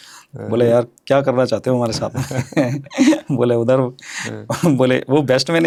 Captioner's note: laughs